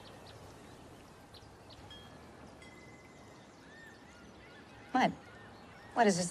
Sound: birds singing; wind chime tinkles

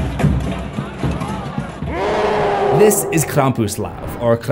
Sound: roar

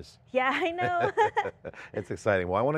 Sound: both laughing

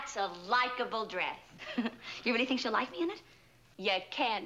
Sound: giggles

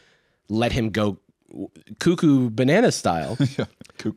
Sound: laughs

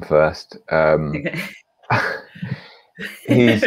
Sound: laughs

